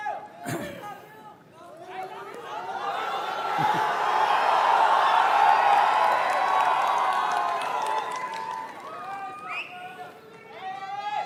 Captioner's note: laughter